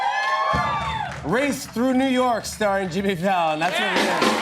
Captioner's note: applause; ominous music